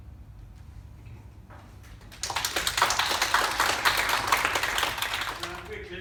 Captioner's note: clapping and cheering from public gallery